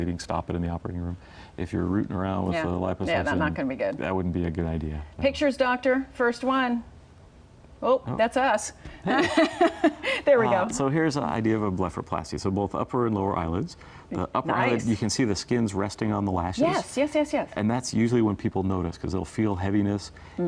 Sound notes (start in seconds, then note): 9.0 laughing